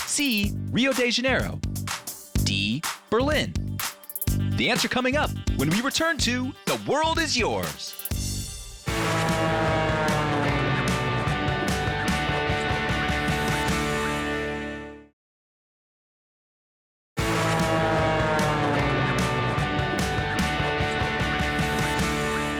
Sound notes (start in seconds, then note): 8.8 upbeat music; 9.4 airplane whizzing; 17.2 upbeat music; 17.3 airplane whizzing